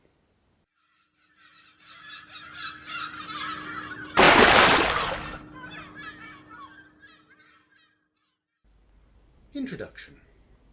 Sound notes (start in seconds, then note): 0.6 gulls Calling; 4.2 big Splash!